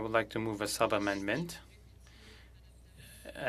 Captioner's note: speaking French